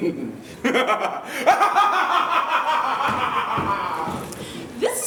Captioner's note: laughter